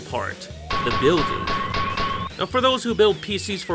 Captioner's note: klanging noises